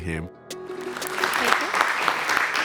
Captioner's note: audience applauding